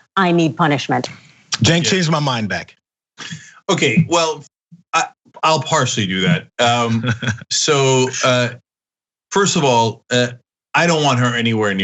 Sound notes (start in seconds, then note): 5.4 laugh